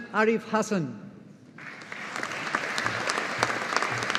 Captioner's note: audience applauding